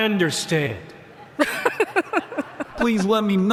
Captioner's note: laughter